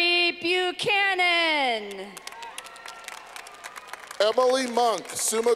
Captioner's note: clapping